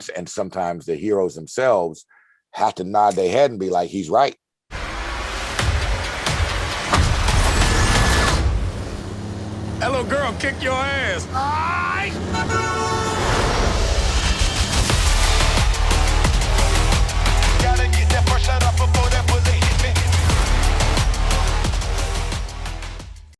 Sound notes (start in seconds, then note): 4.7 dramatic music; 9.0 truck whirring; 12.1 car horn honking; 15.0 dramatic music; 20.4 dramatic music